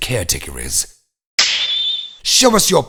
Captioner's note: snap!